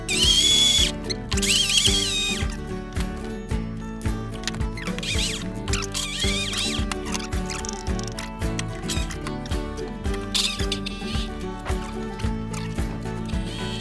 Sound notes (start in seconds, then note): 0.0 high-pitched whirring; 8.3 fork clattering